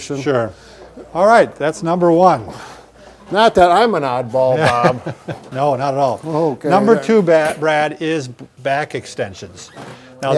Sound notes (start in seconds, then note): 4.6 chuckles